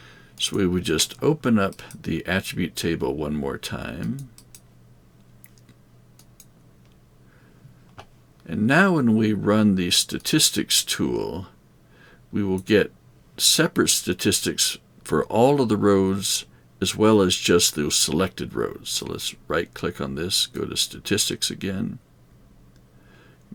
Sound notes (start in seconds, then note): 4.0 mouse clicking